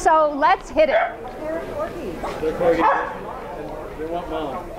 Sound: barking

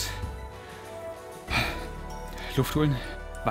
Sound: he breathes heavily

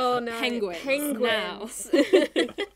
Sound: all laughing

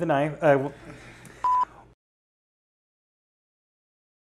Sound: beep

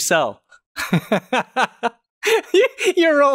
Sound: laughter

